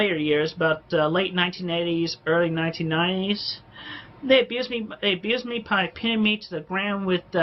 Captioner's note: inhales sharply